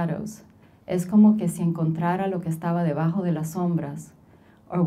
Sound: speaking Spanish

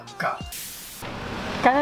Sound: static sound

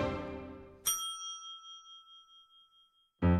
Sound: ding

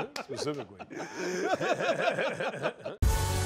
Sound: laughter

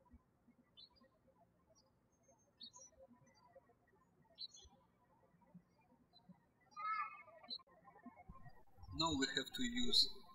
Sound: birds chirping

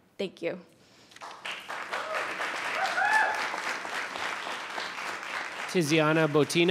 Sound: audience applauding and cheering

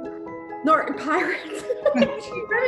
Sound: laughs

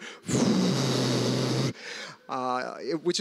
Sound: rumbling, blowing noise

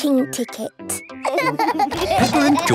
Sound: laughing

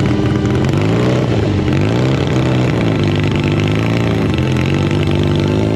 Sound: motorcycle engine accelerating

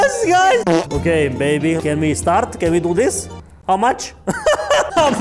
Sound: laughs

